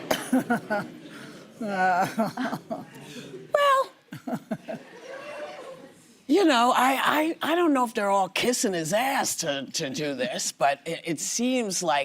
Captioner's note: laughter